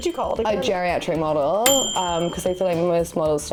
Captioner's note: bell dinging